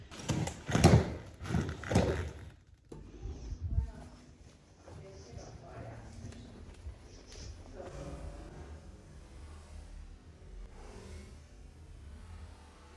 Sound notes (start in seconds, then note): 0.0 leather creaks; 3.0 breathing